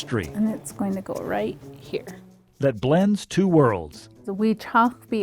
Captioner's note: speaking in non-English